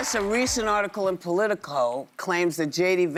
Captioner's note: applause